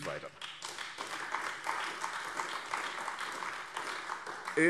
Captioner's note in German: Beifall AfD